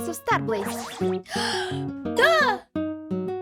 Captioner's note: inhale